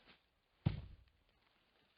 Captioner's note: thomp